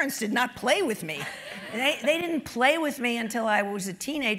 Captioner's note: laugh